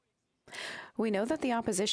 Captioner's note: speaking French